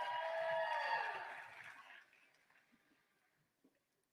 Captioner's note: applause